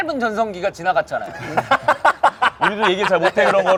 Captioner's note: laughing